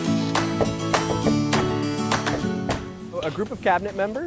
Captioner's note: knocking